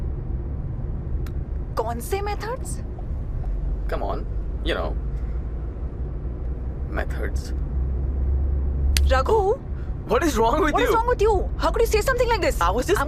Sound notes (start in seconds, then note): none